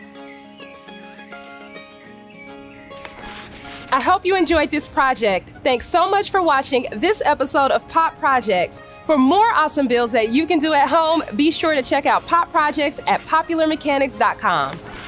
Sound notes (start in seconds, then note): 0.1 gentle music; 2.9 page turning